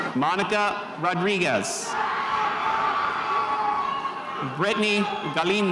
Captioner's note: spectators cheering